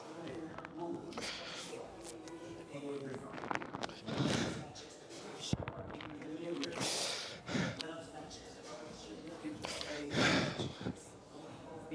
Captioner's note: breathes heavily